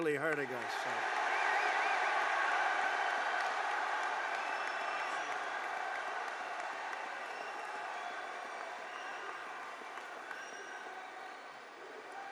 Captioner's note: applause